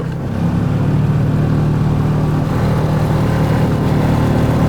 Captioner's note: engine rumbling